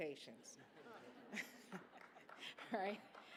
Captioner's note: laughter